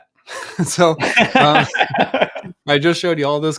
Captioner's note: both laughs